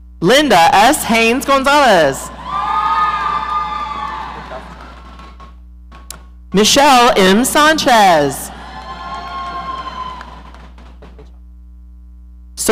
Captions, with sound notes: Linda S. Haynes-Gonzalez. (audience cheering) Michelle M. Sanchez. (audience cheering)